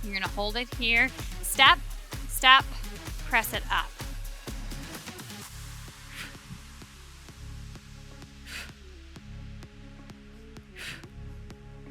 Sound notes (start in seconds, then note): 4.5 breathing deeply; 4.5 upbeat music continues